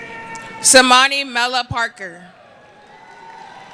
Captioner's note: cheering